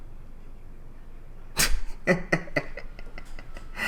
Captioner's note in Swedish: Små fnittra